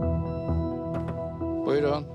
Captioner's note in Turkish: Kapı vuruluyor